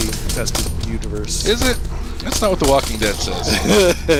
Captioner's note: laughs